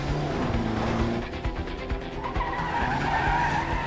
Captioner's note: tires screeching